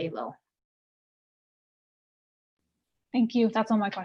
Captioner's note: silence